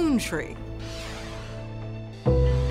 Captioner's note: graphic whooshing; pensive music